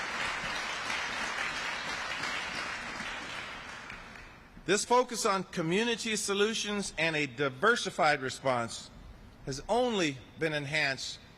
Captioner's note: applause